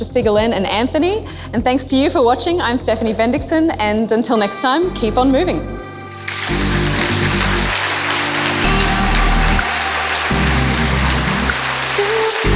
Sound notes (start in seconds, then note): 6.2 audience clapping; 6.2 techno music